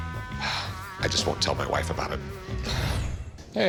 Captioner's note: sigh